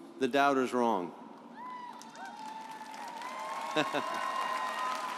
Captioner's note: audience applauds